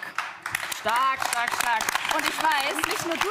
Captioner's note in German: Applaus